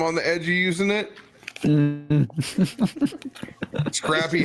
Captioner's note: laughs